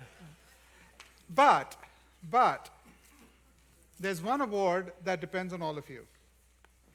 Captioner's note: laughter